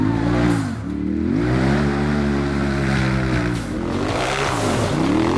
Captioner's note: engine revving